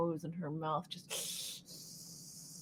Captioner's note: hisses